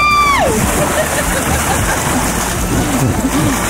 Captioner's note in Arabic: يضحك